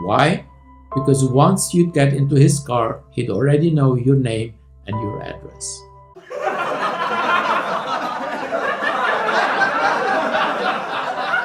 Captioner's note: laughter